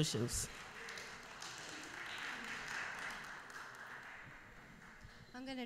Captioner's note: applause